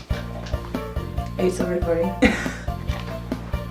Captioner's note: laughs